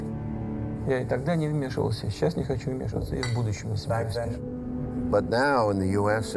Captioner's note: speaking foreign language